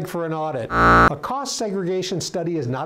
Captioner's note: buzzer